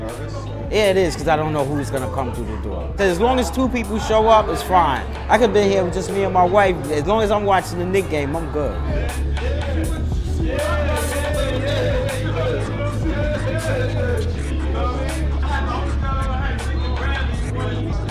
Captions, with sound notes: It is because I don't know who's going to come through the door. As long as two people show up, it's fine. I could be here With Just me and my wife. As long as I'm watching the Knick game I’m good. (More chatter)